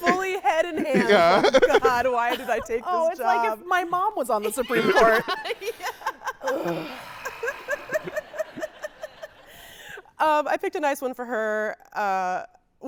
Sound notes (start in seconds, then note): 0.0 laughing; 7.2 audience laughing